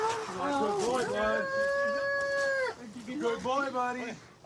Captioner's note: wails